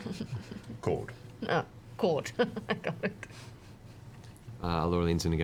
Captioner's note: chuckles